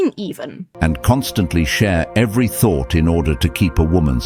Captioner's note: AI Voice